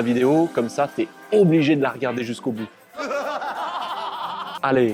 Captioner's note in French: rires machiavéliques